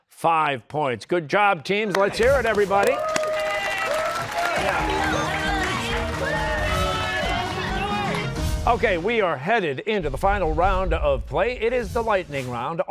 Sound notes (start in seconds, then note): 7.6 cheers and applause